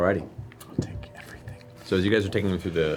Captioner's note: whispered